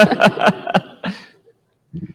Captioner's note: laughter